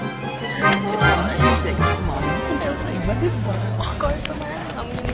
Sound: people chattering

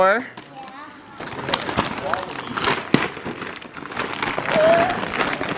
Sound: paper crinkling; gasps

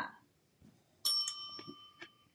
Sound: bell dings

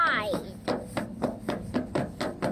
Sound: stomping

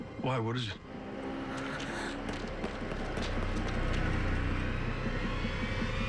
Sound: traffic zooming

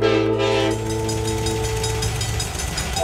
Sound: train horn sounds as well as train crossing

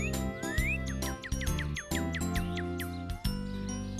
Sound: bird Singing

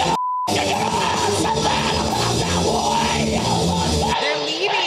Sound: band screaming unintelligibly

